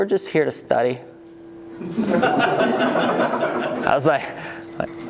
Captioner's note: laughing